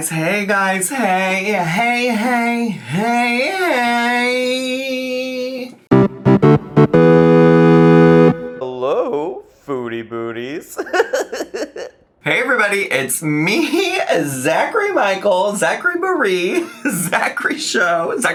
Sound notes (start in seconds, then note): 5.9 upbeat music; 10.7 giggling